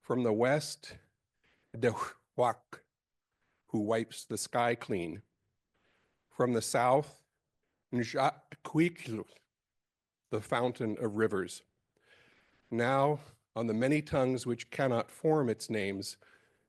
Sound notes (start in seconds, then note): 6.7 speaking Indigenous language